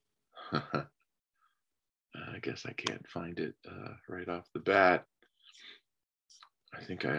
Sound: chuckles

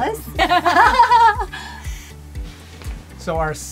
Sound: laughing

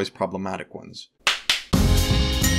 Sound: clap clap; music and dings

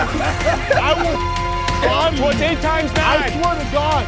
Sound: contestants laughing; beeps

